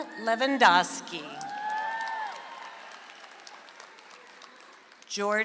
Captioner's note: audience applauds